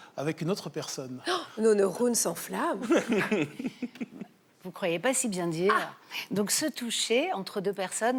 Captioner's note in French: rires